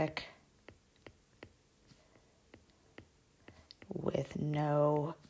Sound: digital pen tapping noise

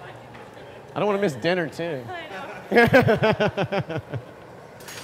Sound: laughter

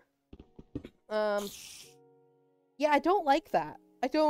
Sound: spider hisses

